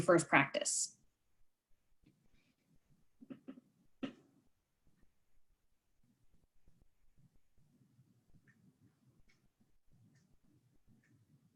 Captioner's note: silence